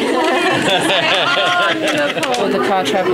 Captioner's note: audience chatter